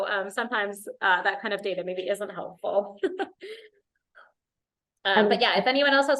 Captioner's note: laughter